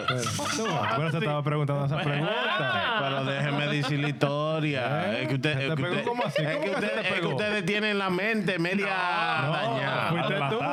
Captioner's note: laughing; speaking In Foreign Language; laughing; speaking In Foreign Language